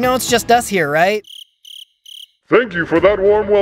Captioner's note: pause and cricket sounds